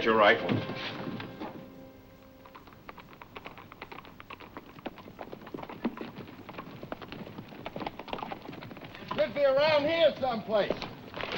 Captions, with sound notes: They took Tom away. I've been thinking too tame. All right, boys, get your rifles. [HORSES' HOOVES CLOPPING]